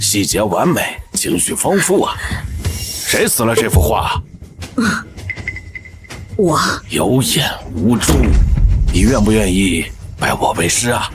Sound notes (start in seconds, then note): 4.9 cough